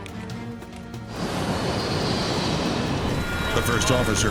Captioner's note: plane whines